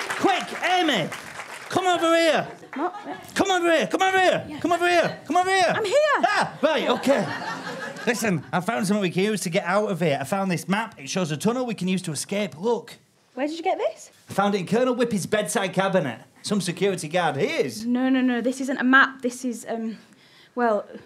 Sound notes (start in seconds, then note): 6.1 screams